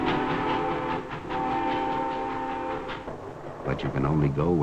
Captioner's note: horn blowing